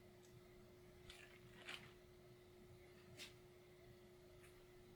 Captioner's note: paper rustling